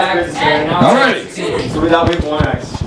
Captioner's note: chatter